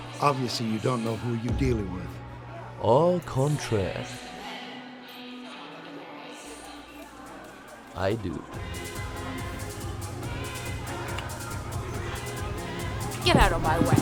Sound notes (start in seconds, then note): 8.8 kissing sound